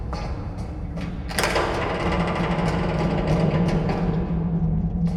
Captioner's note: metal creaking